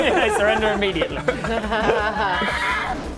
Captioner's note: capitulatory laughter